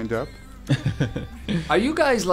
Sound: laughter

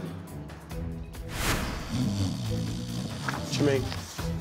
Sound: snores

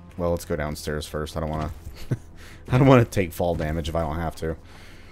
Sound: chuckles

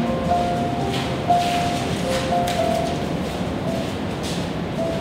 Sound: footsteps echoing

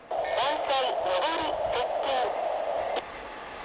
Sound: inbound train approaching

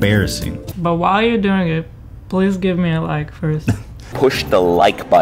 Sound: giggles

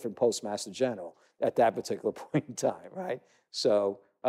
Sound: chuckle

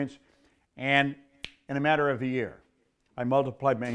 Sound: fingers snap

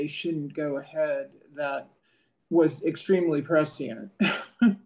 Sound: laugh

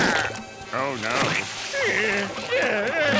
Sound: groaning

